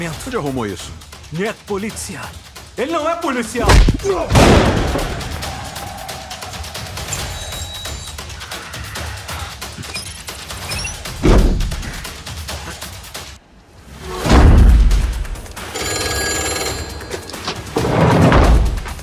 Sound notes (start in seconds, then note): 15.6 phone rings